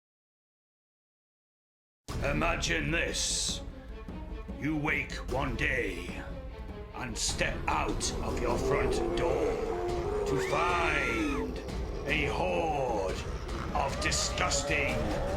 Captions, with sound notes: Imagine this. [driving music] You wake one day. And step out of your front door [zombie noise] to find. A horde. Of disgusting